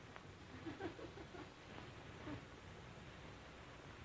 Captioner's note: women giggling